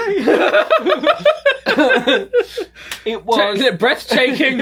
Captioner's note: pair laughing